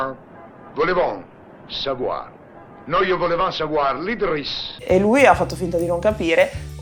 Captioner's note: italian trying to speak french in funny way